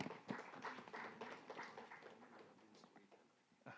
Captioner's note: applause